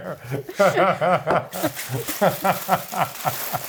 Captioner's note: both laugh